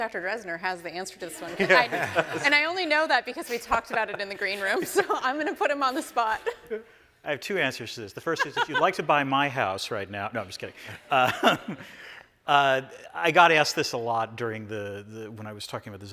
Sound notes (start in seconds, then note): 8.3 chuckling